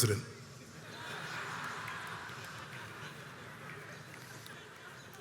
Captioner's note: crowd chuckles